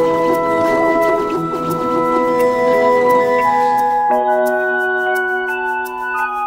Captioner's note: sound of 3D printer